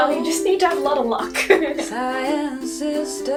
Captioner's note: chuckles